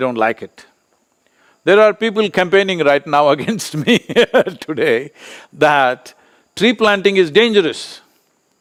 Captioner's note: laughs